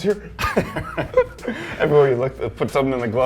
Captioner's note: laughing